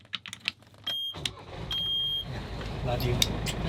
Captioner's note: motor starting